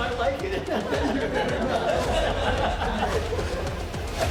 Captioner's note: inmates laughing; dramatic music